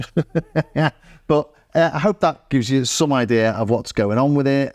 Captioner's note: laughs